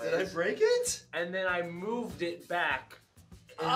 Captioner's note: none